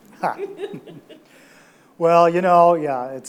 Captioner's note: audience laughs